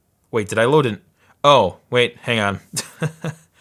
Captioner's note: laughing